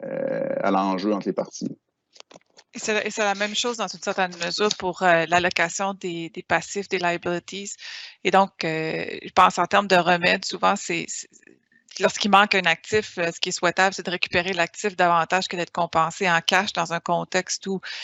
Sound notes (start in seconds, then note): 3.0 speaking in foreign language